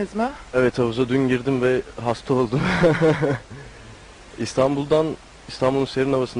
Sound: laughs

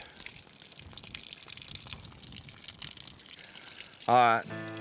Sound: water hose running

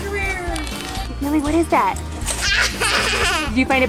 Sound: laughter

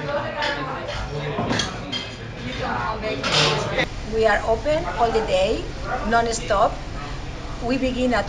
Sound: indistinct chatter

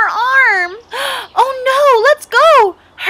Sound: gasp

